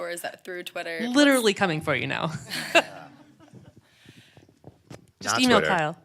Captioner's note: laughs